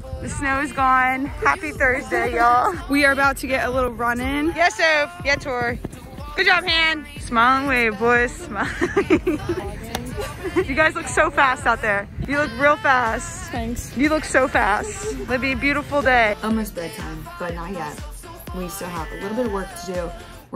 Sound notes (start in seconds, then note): 8.5 laughs; 9.7 claps